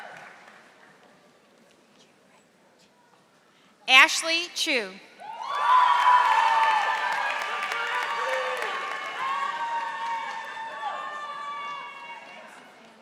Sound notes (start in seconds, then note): 5.5 audience applauding